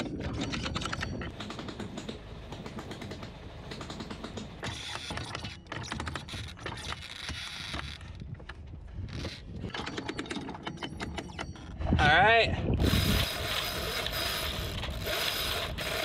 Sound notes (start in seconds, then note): 8.9 anchor rattling; 12.7 rope creaking